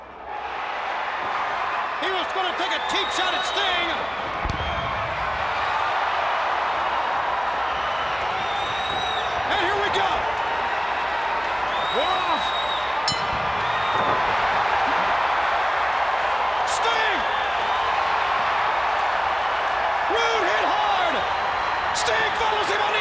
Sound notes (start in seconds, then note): 0.1 crowd cheering; 5.5 crowd cheering; 13.0 bell ringing; 15.7 crowd cheering